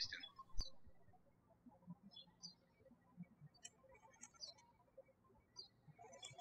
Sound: birds chirping

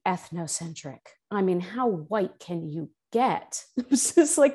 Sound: laughs

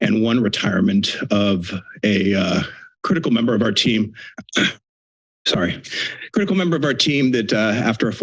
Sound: clears throat

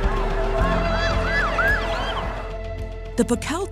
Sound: <i>siren screaming</i>

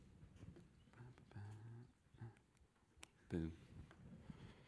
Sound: humming

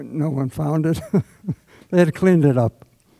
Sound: laughs

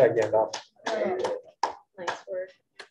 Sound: clapping

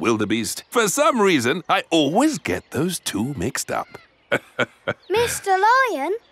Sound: laughs

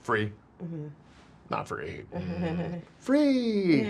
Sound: chuckles

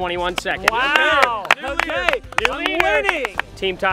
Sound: clapping

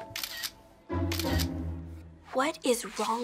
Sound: camera shutter clicking

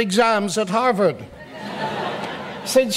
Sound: audience laughs

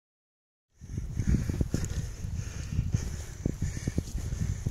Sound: heavy breathing

